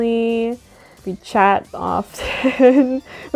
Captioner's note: laughter